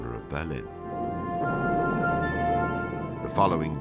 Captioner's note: explosions rumbling